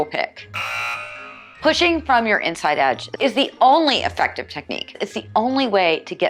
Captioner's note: hockey buzzer